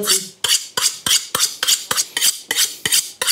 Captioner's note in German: Gleichmäßige Schleifgeräusche